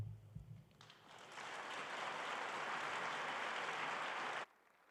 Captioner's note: audience applauding